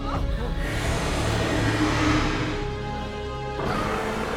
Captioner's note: dragon growls